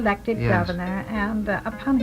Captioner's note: voiceover